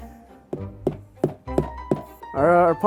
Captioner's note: wood tapping